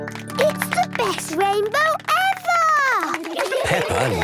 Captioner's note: laughter